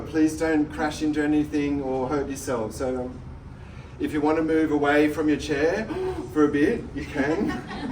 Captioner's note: gasp!